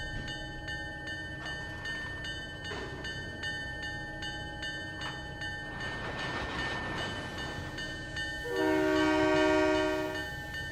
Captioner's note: train whistle